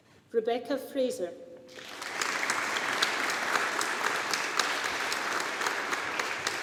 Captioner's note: audience applauding